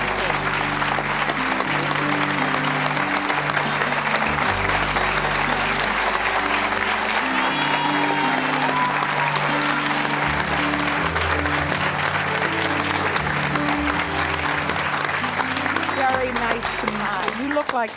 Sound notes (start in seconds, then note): 0.1 gentle music; 7.3 audience cheers